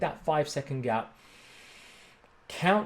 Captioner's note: inhales deeply